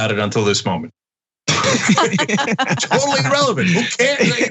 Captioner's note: laugh